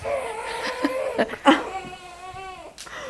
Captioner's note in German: Babyschreien